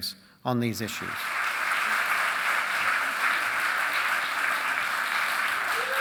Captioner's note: audience applauding; audience cheering and applauding